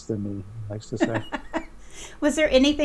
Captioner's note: laughing